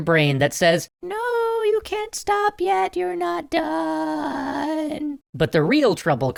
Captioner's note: high pitched voice